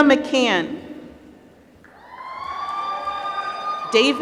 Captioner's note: applause